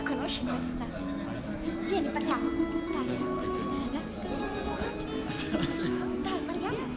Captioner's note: speaks and counts music in Italian